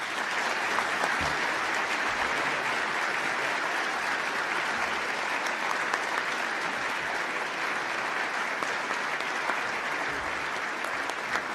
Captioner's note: applause